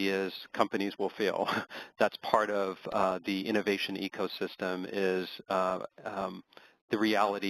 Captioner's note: laugh